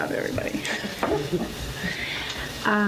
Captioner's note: laughs